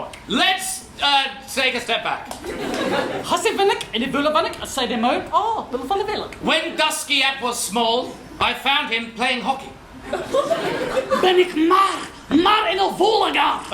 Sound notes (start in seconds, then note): 0.0 czech gibberish; 3.3 more Czech gibberish